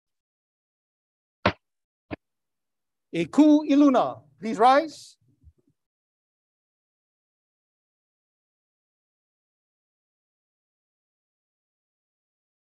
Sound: Bailiff pounds the gavel twice

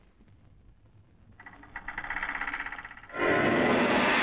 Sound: door creaks

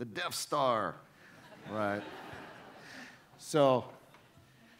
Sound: audience laughing

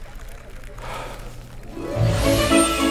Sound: sigh

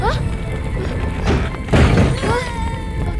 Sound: objects crashing

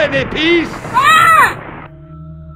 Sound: Ossie yells

